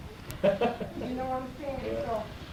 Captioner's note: laughter